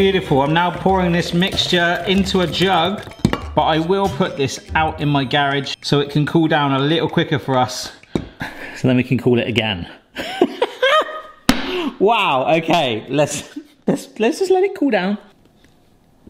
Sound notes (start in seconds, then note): 10.2 laughs